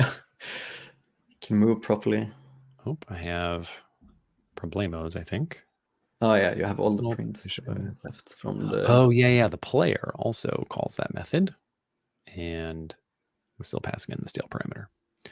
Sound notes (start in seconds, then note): 7.8 mumbling